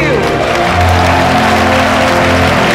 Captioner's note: All cheering, clapping